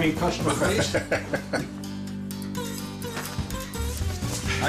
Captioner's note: laughing